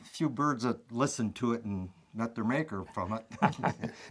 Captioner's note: laughing